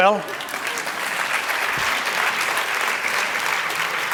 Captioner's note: applause